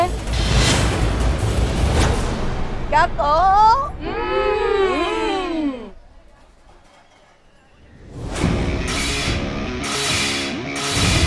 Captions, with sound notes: [dramatic music] Aren't they? Hmm. [clanging]